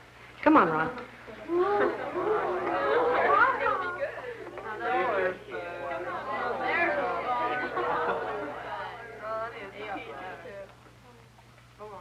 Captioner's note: soft chattering